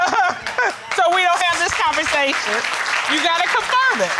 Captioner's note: laughs; audience applauds